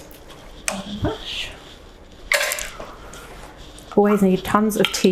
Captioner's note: faintly speaking